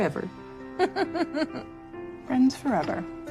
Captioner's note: laughs